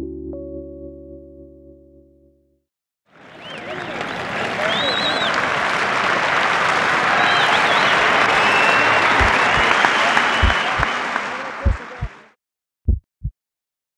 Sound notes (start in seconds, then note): 3.1 applause; 9.4 heartbeat